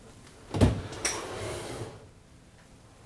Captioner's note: opening and closing drawers